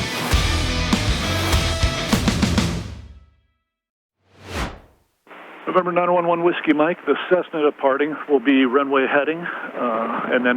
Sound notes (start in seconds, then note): 4.4 air whooshing